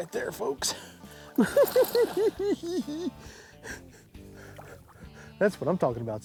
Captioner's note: giggling